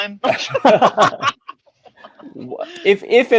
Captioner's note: laughing